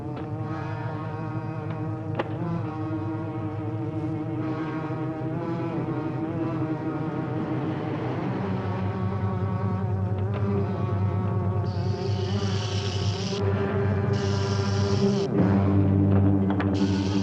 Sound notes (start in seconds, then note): 12.0 rattling